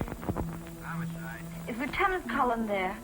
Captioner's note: on phone